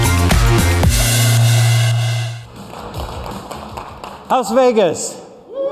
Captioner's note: applause